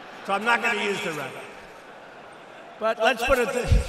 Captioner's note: laughter